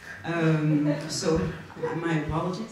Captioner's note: audience laughs